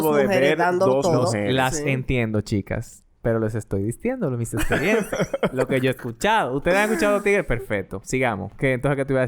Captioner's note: laughs